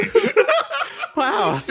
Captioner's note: laugh